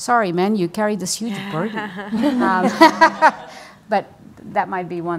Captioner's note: women laugh